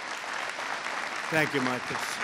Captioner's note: applause